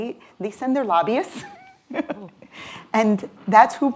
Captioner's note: laughs